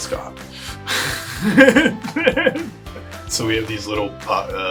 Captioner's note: laughs